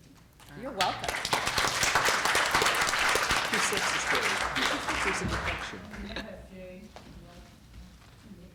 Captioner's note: applause